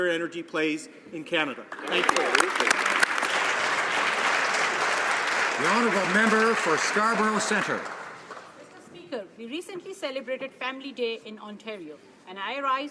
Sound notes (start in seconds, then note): 5.8 applause